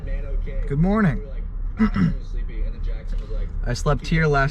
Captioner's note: clears throat